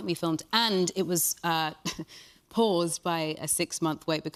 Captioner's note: chuckles